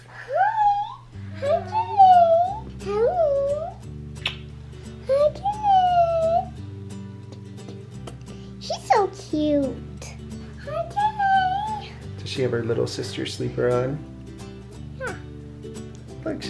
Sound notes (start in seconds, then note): 4.1 kiss; 6.6 bright music